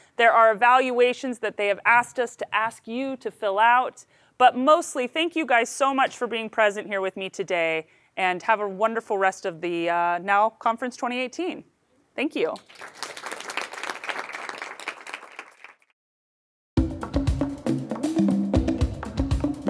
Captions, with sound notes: There are evaluations that they have asked us to ask you to fill out, but mostly thank you guys so much for being present here with me today, and have a wonderful rest of the NOW Conference 2018. Thank you. (audience applauds) (rhythmic drumming)